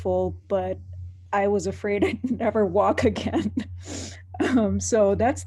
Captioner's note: laughing